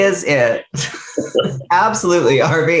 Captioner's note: laughing